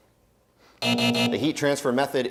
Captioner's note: buzzer